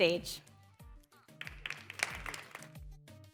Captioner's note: applause